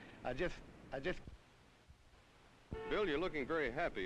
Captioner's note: silent